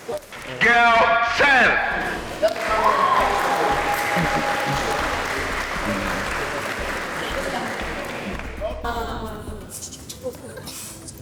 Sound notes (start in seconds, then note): 2.0 applause; 8.0 crowd groans